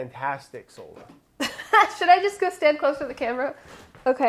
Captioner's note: laughing